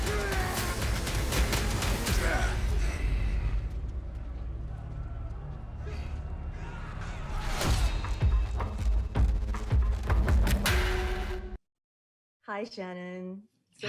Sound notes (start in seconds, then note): 2.3 growling; 7.7 dramatic music